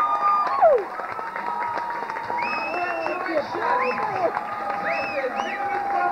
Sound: tv playing

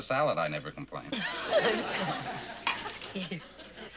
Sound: laughs

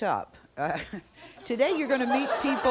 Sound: crowd laughing

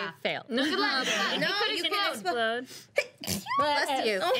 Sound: girl sneezes

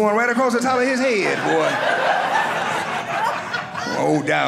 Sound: audience laughing

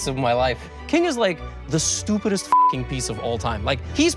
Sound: beep

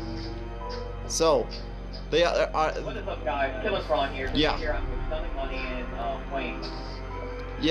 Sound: mutters

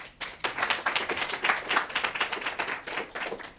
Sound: applause

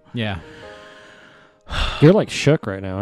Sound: takes a deep breath and sighs

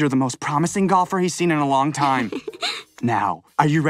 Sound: chuckles

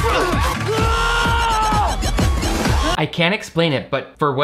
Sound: cheerleaders cheer; players scream

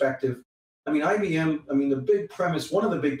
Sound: voice scrambles

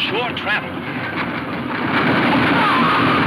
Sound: horses galloping

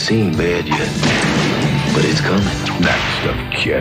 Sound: gunshot

